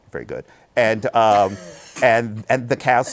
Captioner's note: laughs